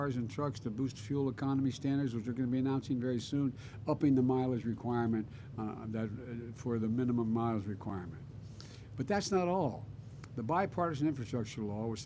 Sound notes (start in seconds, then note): none